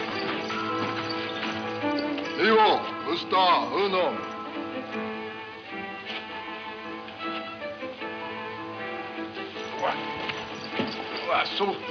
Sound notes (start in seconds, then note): 2.5 man speaking in foreign language